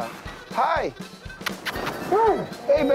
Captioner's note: kissing sound